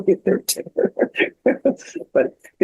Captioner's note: laughs